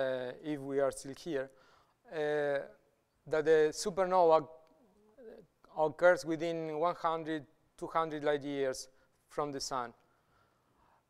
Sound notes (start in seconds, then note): none